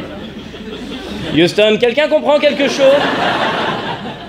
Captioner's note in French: rires; voix d'agent secret; rires